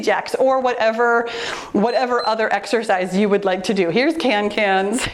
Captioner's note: timer beeps